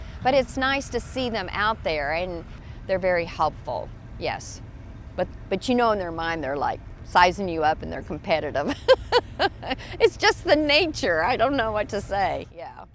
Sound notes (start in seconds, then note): 8.7 laughing